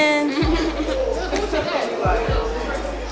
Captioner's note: laughter